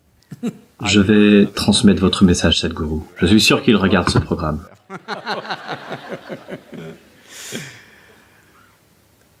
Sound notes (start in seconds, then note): 4.6 laughs